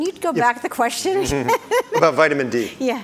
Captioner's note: laughs